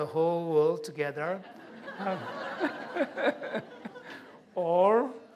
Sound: laughter

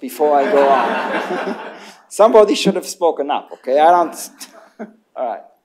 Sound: laughter

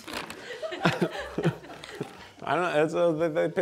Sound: crew laughing

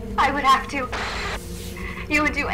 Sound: cassette static

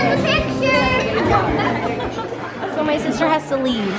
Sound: crowd noise

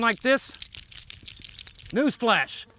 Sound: collar jingling

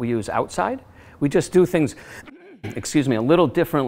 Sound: burps

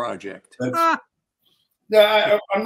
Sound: laughing

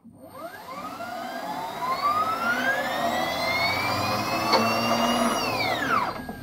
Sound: more happy whining noises

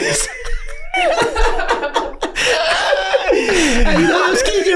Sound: all laughing

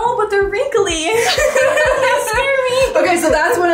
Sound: both laughing

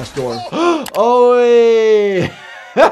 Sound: laughs

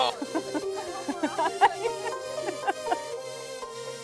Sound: laughing

